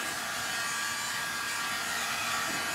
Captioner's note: hair dryer noises